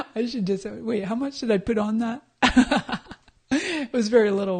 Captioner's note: laughs